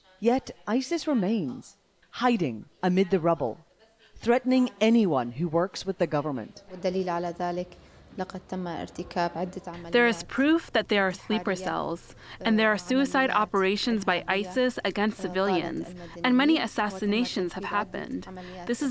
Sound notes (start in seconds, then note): 8.8 through translator